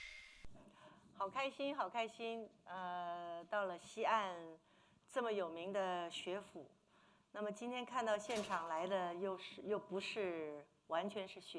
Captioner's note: speaking Mandarin